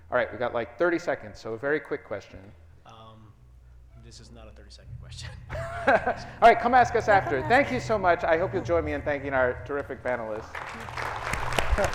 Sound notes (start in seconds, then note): 5.2 laughs; 9.5 audience clapping